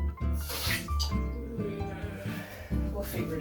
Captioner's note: frustrated groans